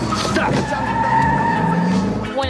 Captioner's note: tire scscrehehes